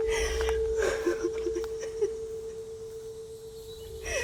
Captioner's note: sobbing softly